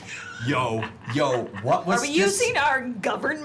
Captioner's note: laughs